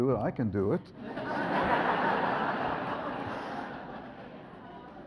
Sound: audience laughs

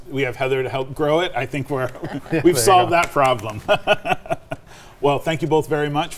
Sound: laughing

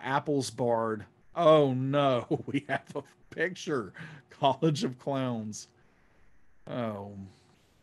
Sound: laughing

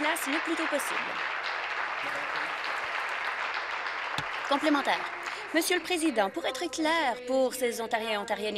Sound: applause

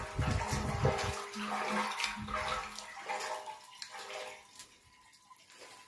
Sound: sound of water sloshing around

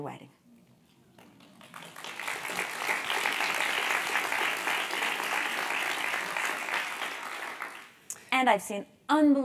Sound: applause

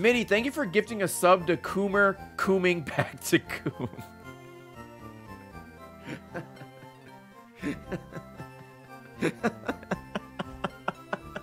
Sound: laughs

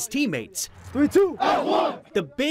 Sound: sounds of football practice

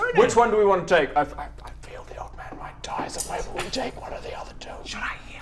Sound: whispers

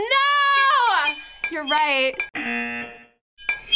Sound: buzzer

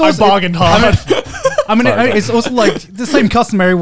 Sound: everyone laughs

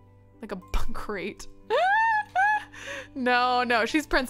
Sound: laughs

